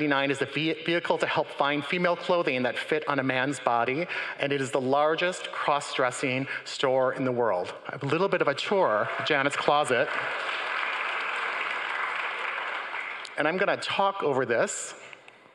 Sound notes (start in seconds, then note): 8.8 crowd cheering; 11.6 upbeat music